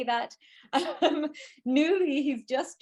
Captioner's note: laughing